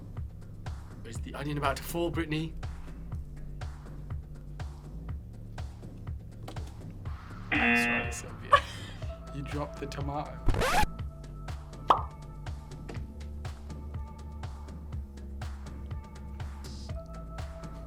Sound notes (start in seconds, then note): 6.5 tomato thuds; 7.5 klaxon blares; 7.5 laughs; 10.4 audio scratches; 11.9 animation pops; 12.8 tomato thuds; 13.8 lively music